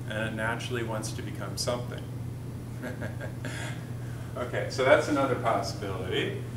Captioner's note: chuckles